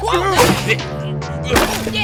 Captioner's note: struggling